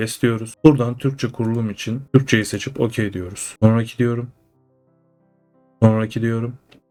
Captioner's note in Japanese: トルコ語